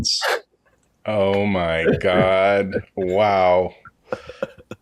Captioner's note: laughing